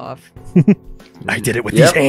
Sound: chuckles

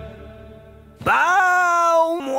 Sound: groaning

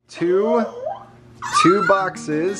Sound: gasps

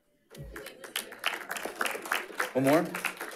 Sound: audience applauding

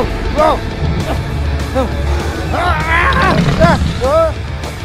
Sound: Jenkins screams

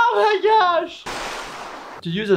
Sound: water splashing

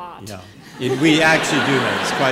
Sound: laughter

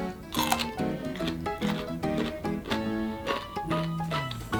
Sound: crunching

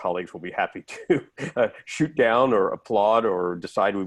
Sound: laughter

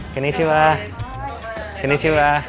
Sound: speaks in foreign language

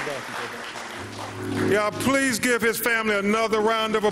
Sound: applause

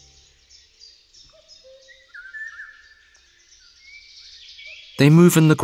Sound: sounds of nature

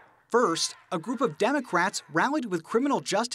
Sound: crowd yelling

